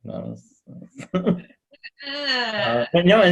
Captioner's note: chuckles